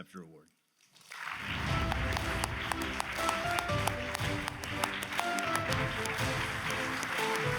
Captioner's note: audience applauds; bright music